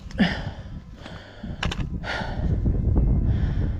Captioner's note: grunting